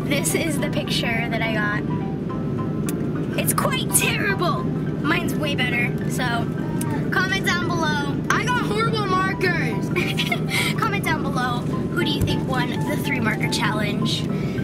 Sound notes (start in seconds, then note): 9.9 laughs